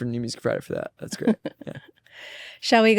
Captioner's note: laughs